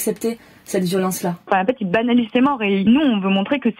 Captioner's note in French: Voix d'une jeune femme